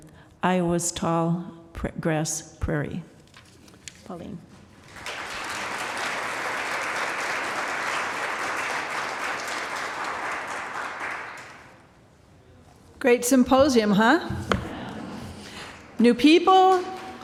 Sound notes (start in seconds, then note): 7.3 applause